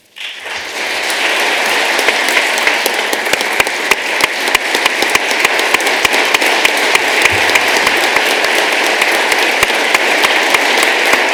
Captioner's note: applause